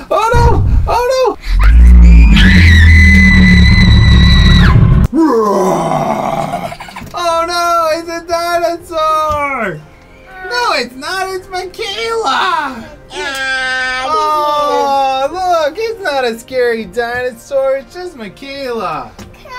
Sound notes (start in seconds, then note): 1.5 screams; 2.1 growls